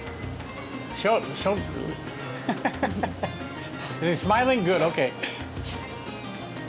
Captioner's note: laughs